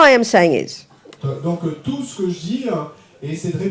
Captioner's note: speaking in French